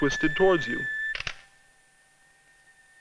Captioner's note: camera shutter clicks